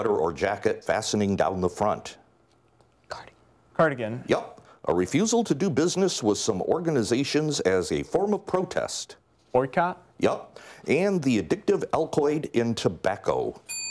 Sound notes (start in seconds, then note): 2.6 whispering